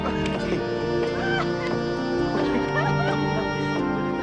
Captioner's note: laughter